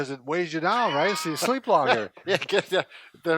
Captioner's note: laughs